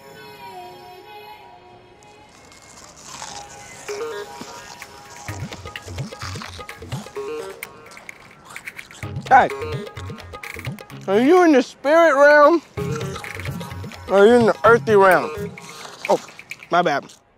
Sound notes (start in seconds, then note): 6.5 crunching